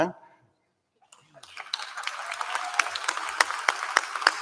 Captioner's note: applause